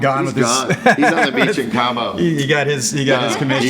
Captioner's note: laughs